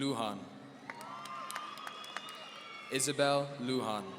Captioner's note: audience cheering